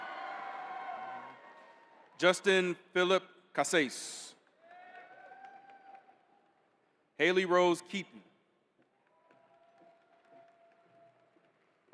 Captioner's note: cheering